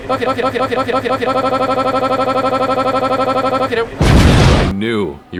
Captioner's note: explosion